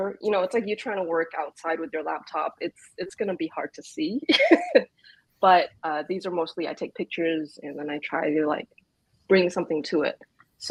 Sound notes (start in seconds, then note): 4.9 laughs